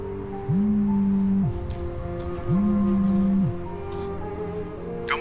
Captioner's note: phone vibrating